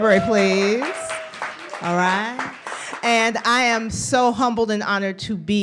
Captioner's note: applause